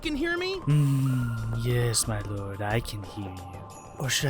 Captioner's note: chuckle